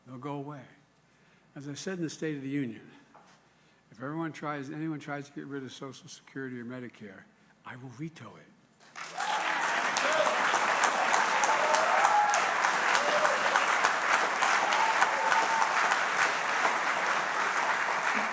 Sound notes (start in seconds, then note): 15.2 applause